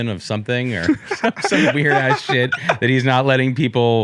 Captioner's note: laughs